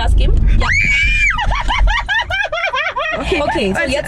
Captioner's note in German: Kreischen, Lachen